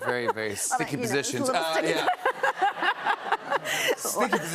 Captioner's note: laughter